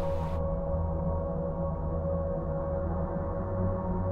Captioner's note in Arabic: الهسهسة الغاز بصوت عال